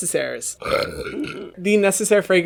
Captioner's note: burping